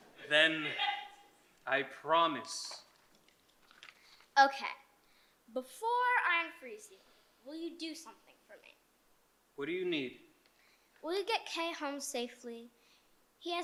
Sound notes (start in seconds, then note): none